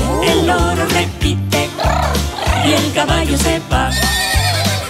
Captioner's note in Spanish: Relincho